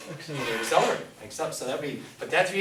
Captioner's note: voiceover